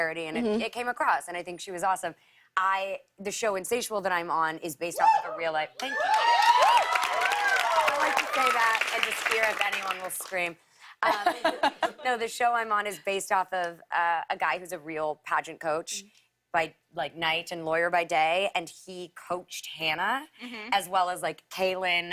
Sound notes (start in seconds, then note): 5.8 cheers and applause; 10.4 light laughter